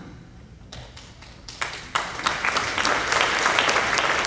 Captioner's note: applauding